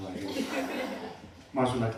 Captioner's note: laughter